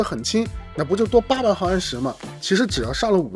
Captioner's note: slip